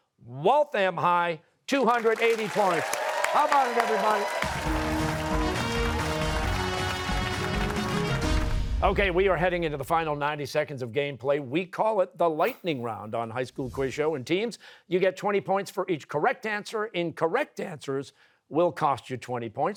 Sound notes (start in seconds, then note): 4.6 cheers and applause